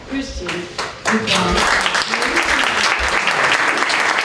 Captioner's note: applause